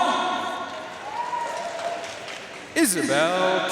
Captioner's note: audience cheering and applauding